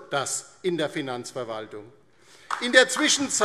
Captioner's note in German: Beifall DIE LINKE und SPD